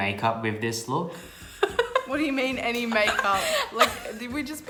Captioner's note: laughing